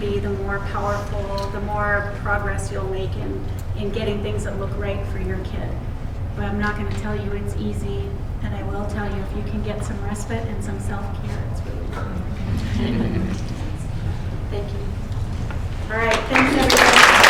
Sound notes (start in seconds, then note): 12.3 laughter